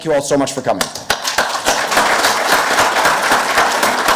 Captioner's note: group applauds